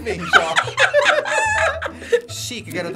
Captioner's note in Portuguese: risos